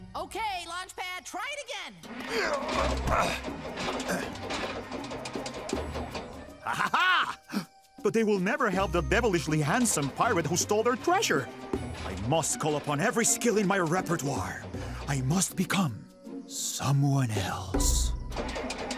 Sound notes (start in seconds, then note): 2.0 engine stuttering; 3.7 grunting; 18.3 engine stuttering